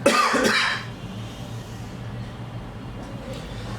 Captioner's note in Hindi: खांसने की आवाज़